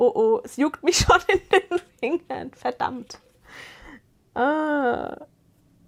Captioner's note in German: gelächter